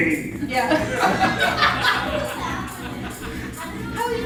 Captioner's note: audience laughing